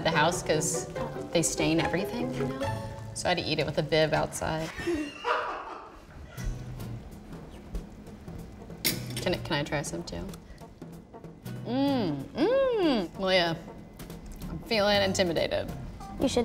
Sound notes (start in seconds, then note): 4.8 producer laughing